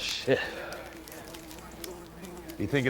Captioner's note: flies buzzing